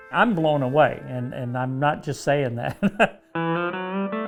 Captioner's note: laughs; calm music